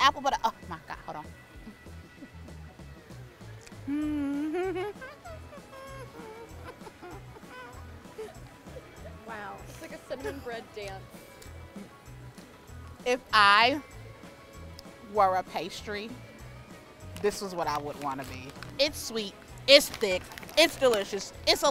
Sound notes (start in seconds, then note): 3.6 humming giddily